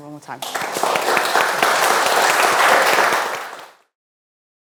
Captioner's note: audience applauds